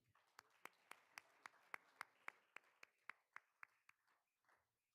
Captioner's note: all applauding